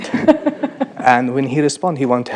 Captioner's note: laughing